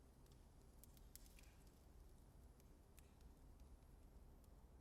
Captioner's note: flames crackling